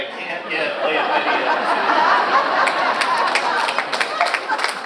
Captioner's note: audience laughs